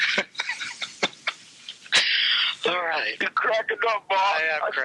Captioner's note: laughs